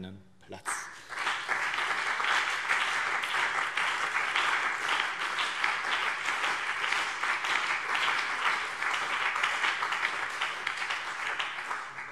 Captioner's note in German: Beifall BÜNDNIS 90/DIE GRÜNEN und CDU